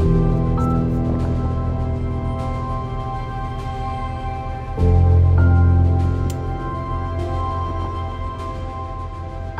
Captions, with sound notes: Toadstools. [buckle clicking]